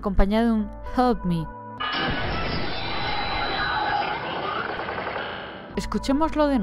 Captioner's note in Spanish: sonidos del cubo de compañía